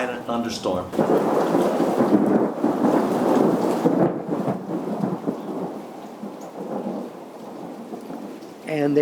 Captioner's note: rain and thunder sounds